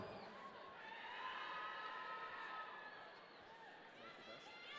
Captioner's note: audience cheering